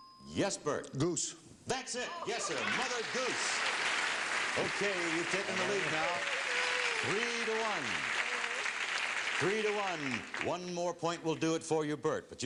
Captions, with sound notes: Yes, Burt. -Goose. -That's it, yes sir. Mother Goose. -(applause) -Okay, you've taken the lead now. Three-to-one. One more point will do it for you, Burt.